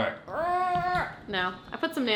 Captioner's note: grunts